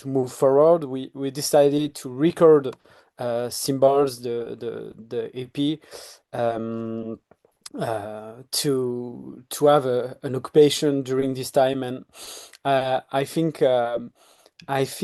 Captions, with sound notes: move forward, we decided to record "Symbols," the EP, to have an occupation during this time. [sniffs] And I think